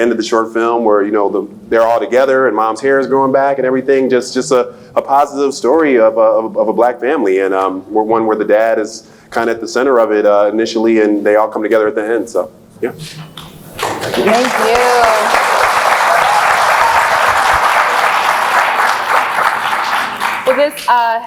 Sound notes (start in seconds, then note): 16.4 applauds